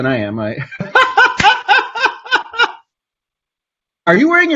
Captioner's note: laughs